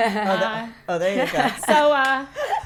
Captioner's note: laughing